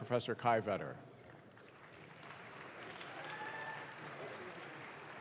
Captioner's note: audience claps